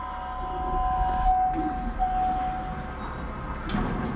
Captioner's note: elevator dings